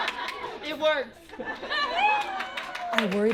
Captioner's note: cheering